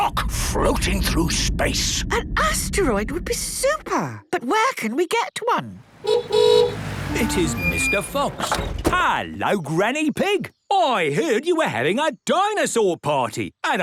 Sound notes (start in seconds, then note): 5.9 horn honking